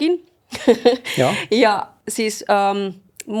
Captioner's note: laughter